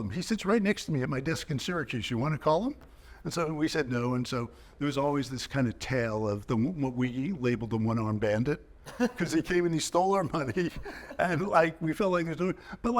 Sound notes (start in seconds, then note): 8.8 chuckling